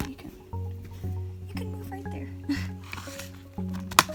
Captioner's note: laughs